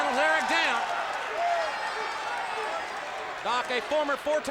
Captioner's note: audience applauds and cheers